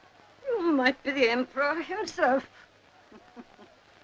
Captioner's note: chuckle